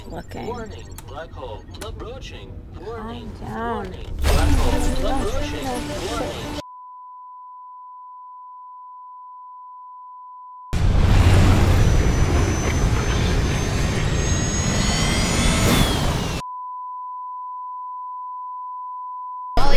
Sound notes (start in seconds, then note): 15.5 alarm blaring